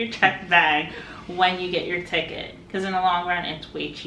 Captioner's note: chuckles